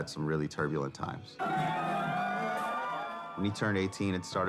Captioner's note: crowd cheering